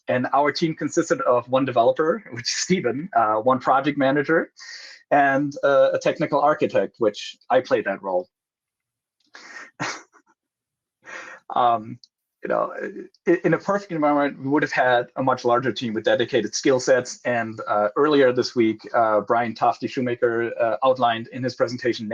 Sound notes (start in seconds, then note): 9.4 laughs